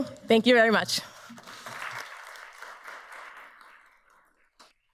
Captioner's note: audience applauds